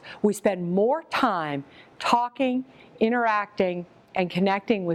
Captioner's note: none